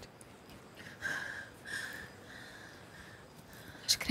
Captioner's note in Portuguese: luiza suspirando